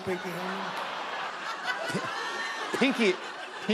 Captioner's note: laughter